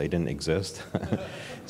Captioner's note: laughter